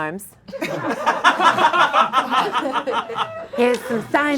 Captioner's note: audience laughing